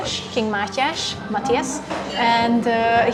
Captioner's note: Hungarian